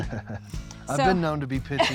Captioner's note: chuckling